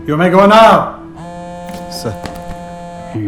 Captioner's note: phone vibrates